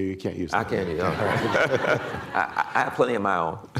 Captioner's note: laughter